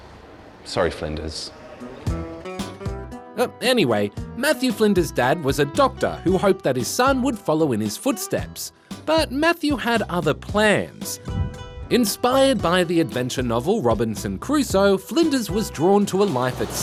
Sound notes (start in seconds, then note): none